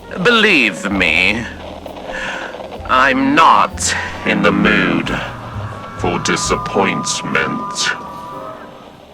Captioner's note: wendigo voice